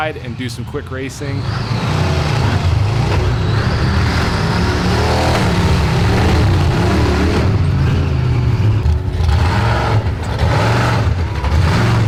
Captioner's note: monster Truck Engine Sounds